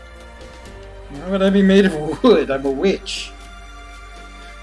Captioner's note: laughing